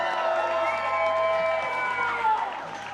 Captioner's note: chanting; applause